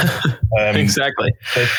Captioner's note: laughing